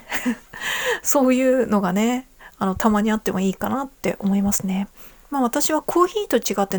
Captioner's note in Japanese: 息をのむ音